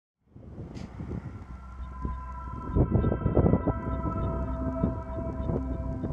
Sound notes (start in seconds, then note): 0.3 wind blowing; 1.9 gentle music